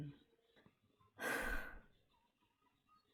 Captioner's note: sighs